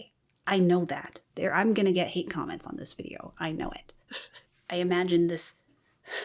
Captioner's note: laughs